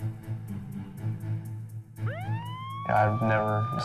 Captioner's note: police siren